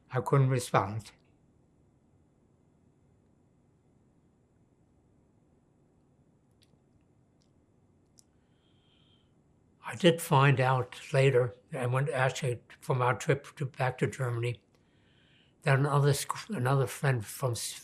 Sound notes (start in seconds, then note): 2.0 pauses 8 seconds